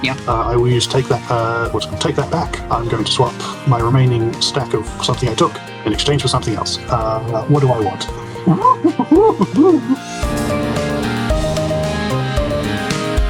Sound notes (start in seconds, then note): 8.4 excited mischief noises